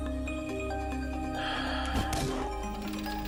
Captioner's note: sighs